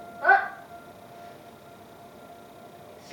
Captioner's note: siren